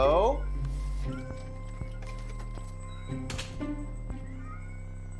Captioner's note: cats meowing